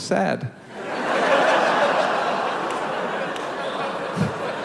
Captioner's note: audience laughs